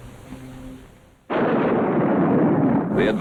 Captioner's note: nuclear explosion